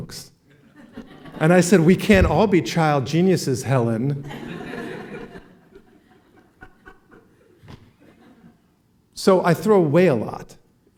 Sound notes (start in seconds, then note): 4.1 laughing